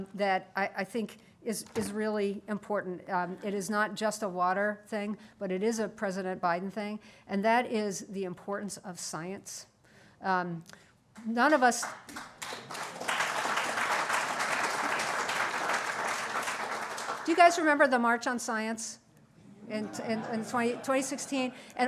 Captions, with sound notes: that I think is really important. It is not just a water thing but it is a President Biden thing and that is the importance of science. None of us -- (Applause) Do you guys remember the March on Science in 2016